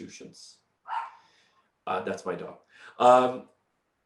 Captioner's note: dog barking